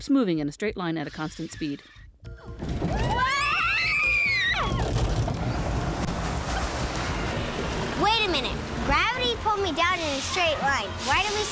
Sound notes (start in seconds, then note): 2.9 screaming